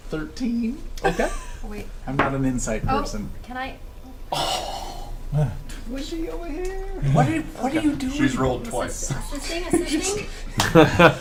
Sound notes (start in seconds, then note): 5.1 scoffs; 10.6 all laugh